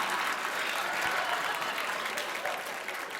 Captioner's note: applause; laughter